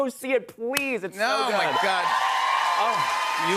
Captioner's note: cheers and applause